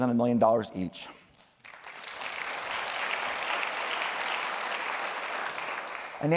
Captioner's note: applause